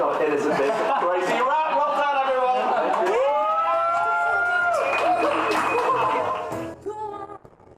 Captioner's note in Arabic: هتاف، ثرثرة، احتفال